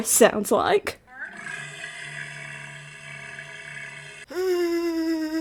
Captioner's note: walrus sounds